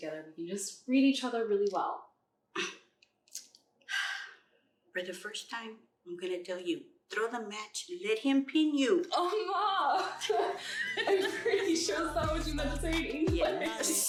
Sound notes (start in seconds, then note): 9.2 Spanish